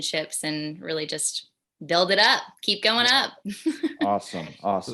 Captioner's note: laughs